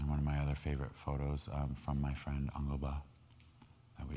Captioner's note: speaking in foreign language